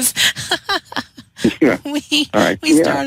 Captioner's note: laughter